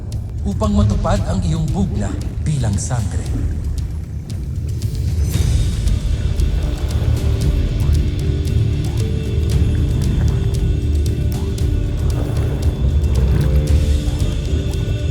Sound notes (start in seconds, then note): 3.9 epic music playing; 3.9 water gurgling